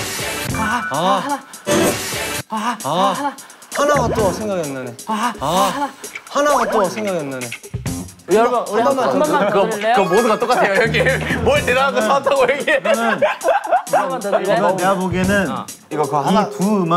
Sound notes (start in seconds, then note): 0.1 gasping at the same time; 5.0 whispering